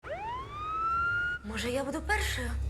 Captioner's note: ambulance siren